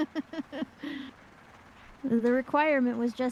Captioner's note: laughs